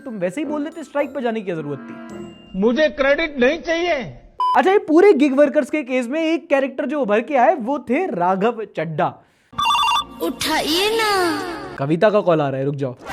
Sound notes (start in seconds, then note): 9.5 phone ringing